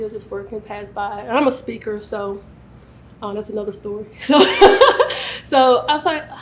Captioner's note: laughs